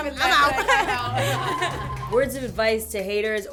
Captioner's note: laughter